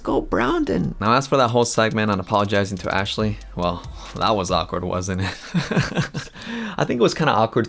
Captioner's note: laughs